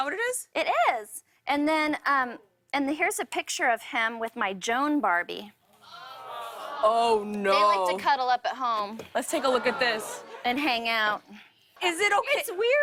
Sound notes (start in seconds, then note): 5.8 audience gasps